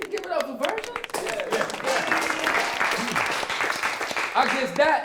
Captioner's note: applause